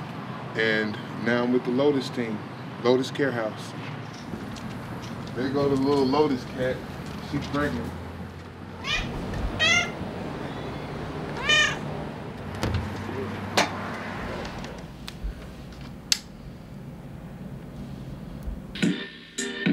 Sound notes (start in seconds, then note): 11.3 cat meows